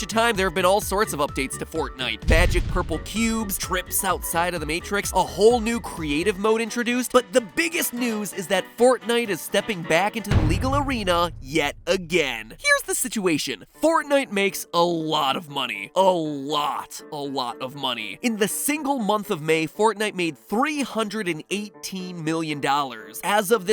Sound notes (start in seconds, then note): 10.3 thump/boom